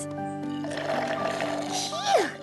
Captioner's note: slurping